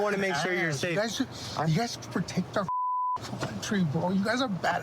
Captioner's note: beep